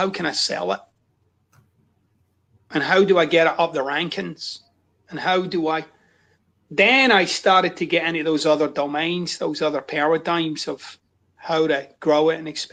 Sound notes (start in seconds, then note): none